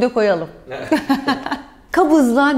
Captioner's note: laughs